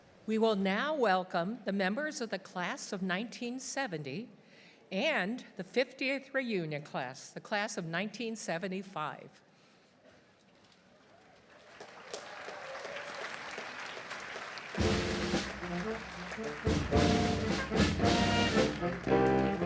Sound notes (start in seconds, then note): 11.3 audience applauding; 14.7 upbeat band music